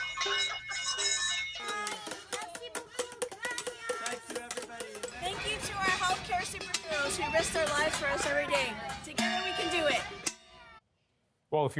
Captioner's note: cheers and Applause